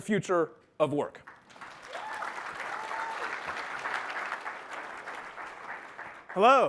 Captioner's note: applause